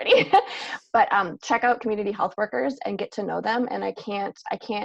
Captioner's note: laugh